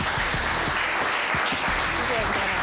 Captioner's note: audience applauding